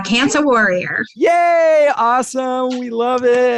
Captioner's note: exclaiming